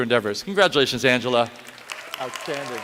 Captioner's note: applause